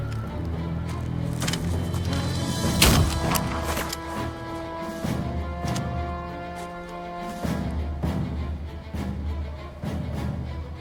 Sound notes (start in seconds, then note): 0.0 rocks clattering; 0.3 dramatic music; 2.6 gunshot blasts